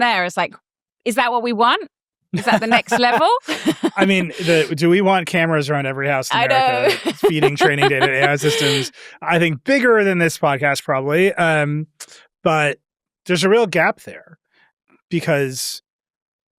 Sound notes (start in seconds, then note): 2.3 chuckles